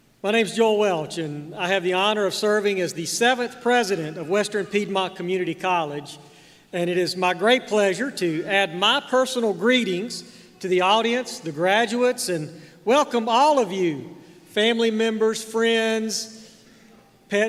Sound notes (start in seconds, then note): none